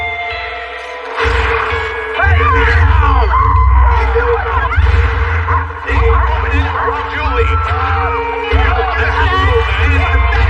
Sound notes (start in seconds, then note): 0.2 theme music playing; 4.7 gunshot